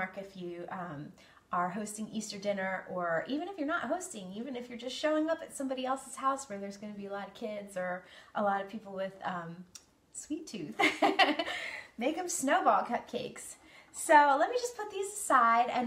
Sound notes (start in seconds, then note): 10.8 laughs